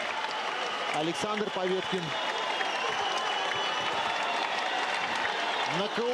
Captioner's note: applause